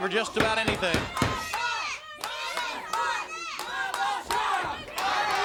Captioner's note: crowd cheering